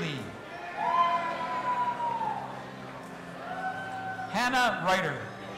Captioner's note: audience applauding and cheering